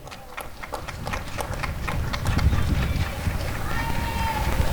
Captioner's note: applause and cheering